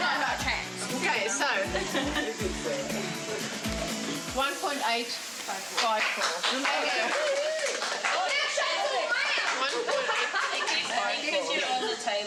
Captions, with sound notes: - Okay, so, 1.854 (claps) 1.854,